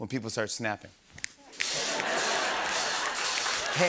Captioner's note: snapping fingers; laughter